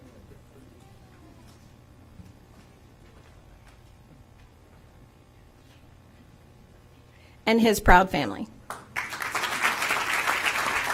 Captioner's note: applause